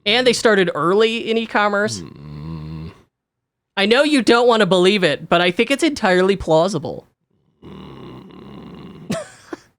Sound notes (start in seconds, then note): 1.8 groans; 7.6 groans; 8.4 laughs